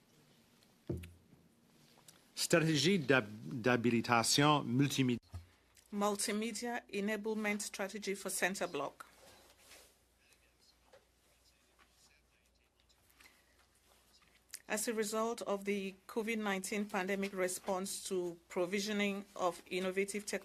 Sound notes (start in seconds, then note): 8.8 speaking French